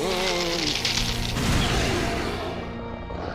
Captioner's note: crackling; growling